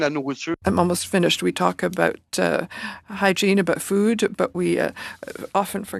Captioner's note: speaking French